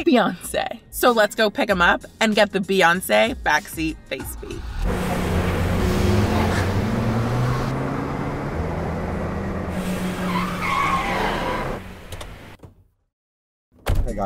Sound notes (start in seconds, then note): 4.5 car zooms; 7.4 tires screech